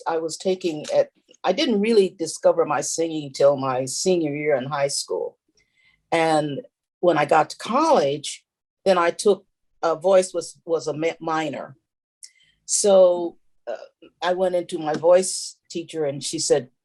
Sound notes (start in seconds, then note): none